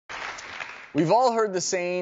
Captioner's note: audience clapping